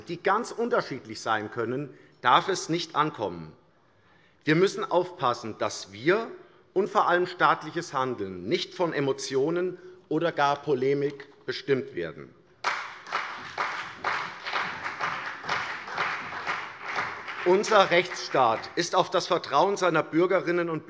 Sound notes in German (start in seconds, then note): 12.6 Beifall CDU und vereinzelt BÜNDNIS 90/DIE GRÜNEN